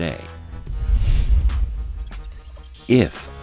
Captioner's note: air whooshing